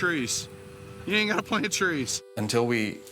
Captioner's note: laughing